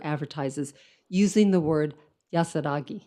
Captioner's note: speaks in foreign language